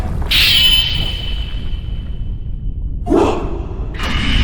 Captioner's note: wind whooshing